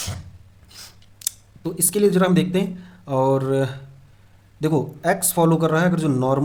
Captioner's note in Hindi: नाक से की जाने वाली आवाज़